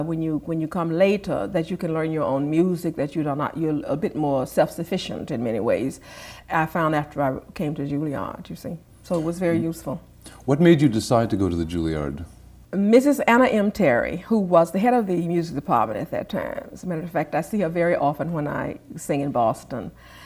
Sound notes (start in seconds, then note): none